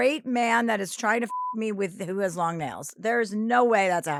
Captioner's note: beep